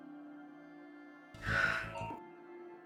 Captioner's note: June exhales